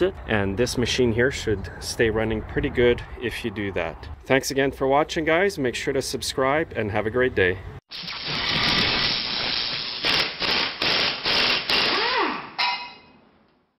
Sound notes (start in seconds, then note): 8.2 drilling sounds